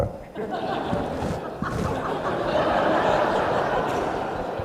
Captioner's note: laughter